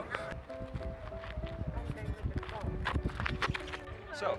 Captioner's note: gravel crunchy feet noises as is an excited bean